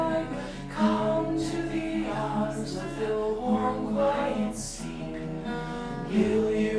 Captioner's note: and whisper chorus